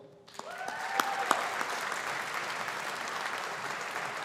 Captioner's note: audience applauding